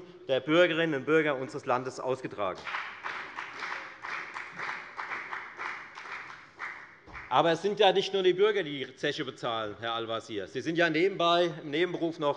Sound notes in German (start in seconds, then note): 2.5 Beifall bei der FDP